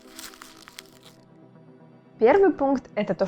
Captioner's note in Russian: звук мятой бумаги